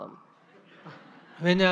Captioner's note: audience Laughter